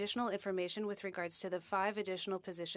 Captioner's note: speaking French